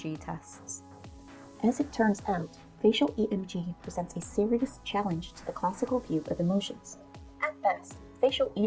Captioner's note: American accent